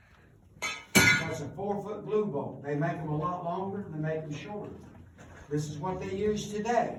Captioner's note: clinking sound